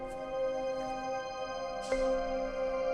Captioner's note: exhales sharply